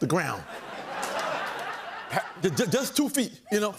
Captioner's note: laughter and applause